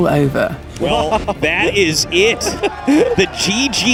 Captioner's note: laughs